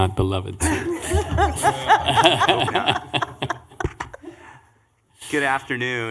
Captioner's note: laughing